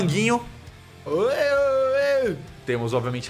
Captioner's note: happy sounds